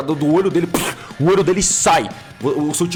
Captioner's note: burst sound